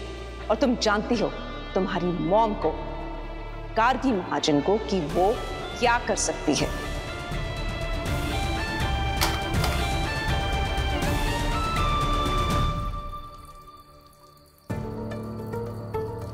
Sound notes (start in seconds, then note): 9.2 phone thuds on the ground; 14.5 pensive music playing